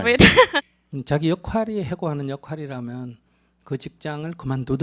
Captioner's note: questioner laughs